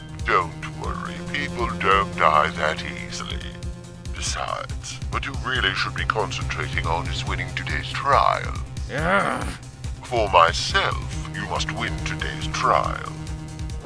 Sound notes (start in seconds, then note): 0.1 grunts; 8.6 growls